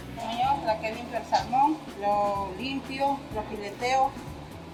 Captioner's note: speaks Spanish